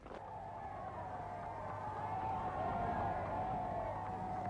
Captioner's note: crowd cheers